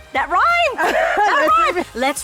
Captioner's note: laughing